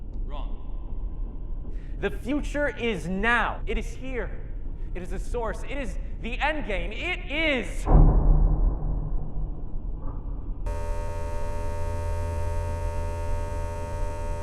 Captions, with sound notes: Wrong. The future is now it is here. It is a source, it is the endgame it is (upbeat tensed beat) (shaver buzzing)